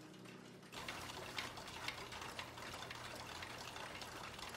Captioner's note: toys rattling